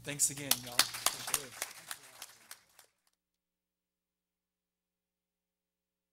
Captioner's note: everyone applauding